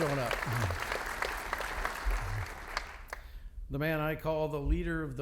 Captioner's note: audience applauding